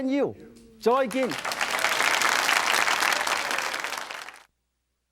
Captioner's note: audience applauds